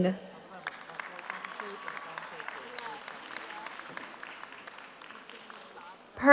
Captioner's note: audience applauds; audience cheers